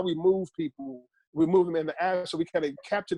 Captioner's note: audio glitch